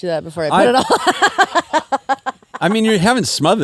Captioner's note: laughs